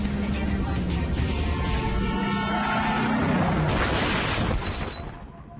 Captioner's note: �brakes squealing, sounds of crash�